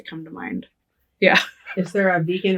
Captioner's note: laughing